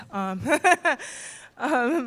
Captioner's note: laughter